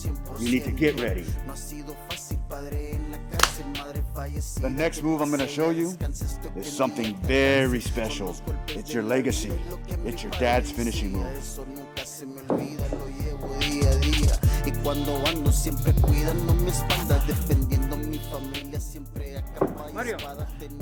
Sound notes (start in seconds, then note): 12.4 phone ringing